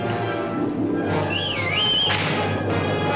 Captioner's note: whistling to wagon